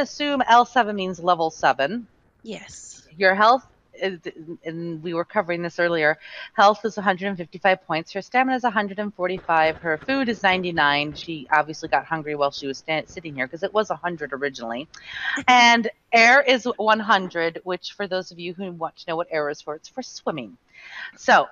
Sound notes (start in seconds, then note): 15.8 lauhging